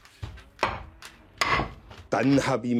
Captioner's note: hammering